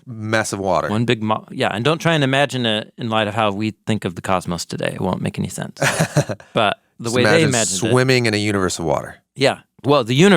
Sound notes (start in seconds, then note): 5.8 person laughing